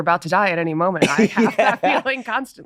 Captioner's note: laughing